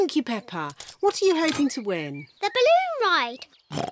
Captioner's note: oinks